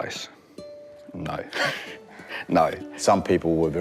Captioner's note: chuckles